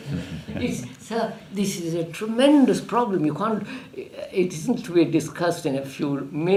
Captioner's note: laughs